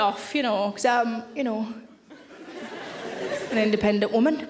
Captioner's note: audience laughing